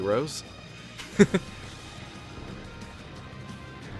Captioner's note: chuckles